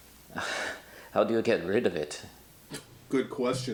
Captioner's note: sighs